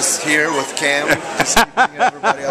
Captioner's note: laughter